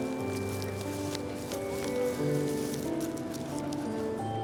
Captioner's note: paper rustling